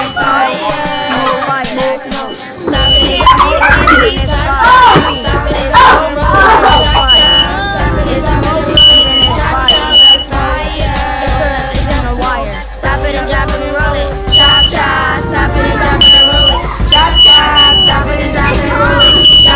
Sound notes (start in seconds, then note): 2.7 smoke De tector Alarm